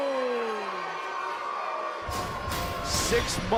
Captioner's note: cheers & boos